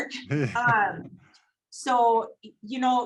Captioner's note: laughs